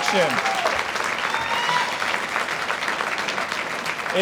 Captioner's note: audience applauds